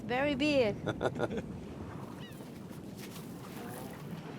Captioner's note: laughs